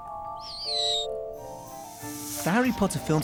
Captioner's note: screeches